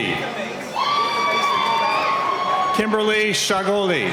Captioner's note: cheering